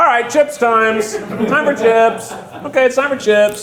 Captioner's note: crew laughing